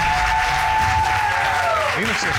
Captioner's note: audience cheering